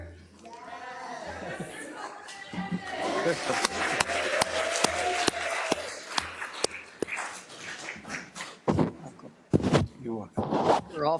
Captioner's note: applause